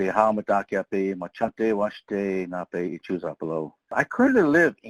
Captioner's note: speaking in foreign language